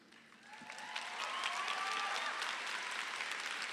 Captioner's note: crowd cheers